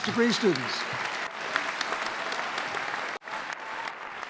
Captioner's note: clapping